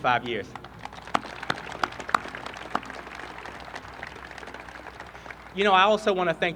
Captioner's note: applause